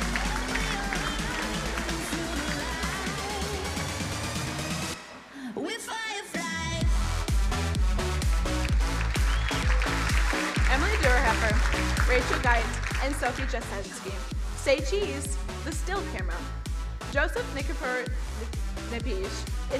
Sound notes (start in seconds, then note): 6.8 vigorous electronic music; 8.3 crowd applauding